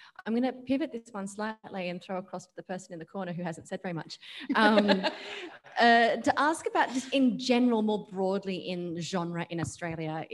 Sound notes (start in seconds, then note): 4.4 laughs